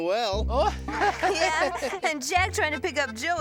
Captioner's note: laughing